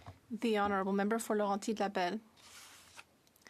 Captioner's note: speaking French